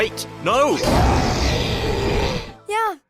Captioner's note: roar